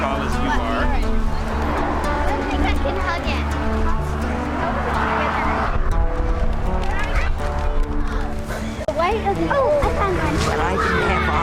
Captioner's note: traffic noise & background conversations